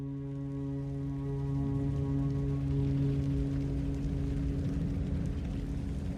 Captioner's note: flames crackling; wing howling